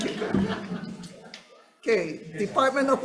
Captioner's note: audience laughing